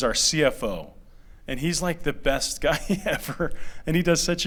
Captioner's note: laughter